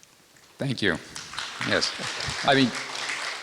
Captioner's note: applause